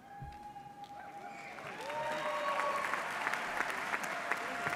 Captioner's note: audience cheers